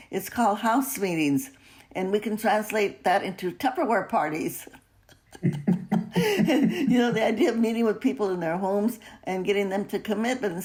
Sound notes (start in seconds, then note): 5.2 laughs